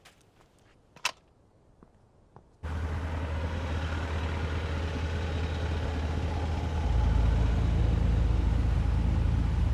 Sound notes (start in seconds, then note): 0.5 kickstand clacks; 2.5 engine rumbling; 6.4 suspenseful music